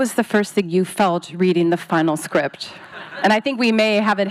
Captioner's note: audience laughs